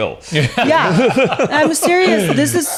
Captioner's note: hosts laughing